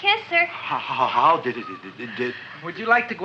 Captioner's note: stammering